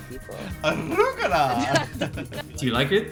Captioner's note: laughs